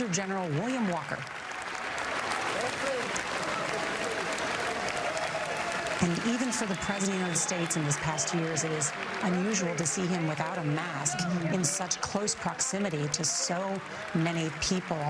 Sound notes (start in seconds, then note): 5.1 applause